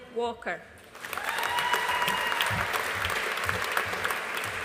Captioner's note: audience applauding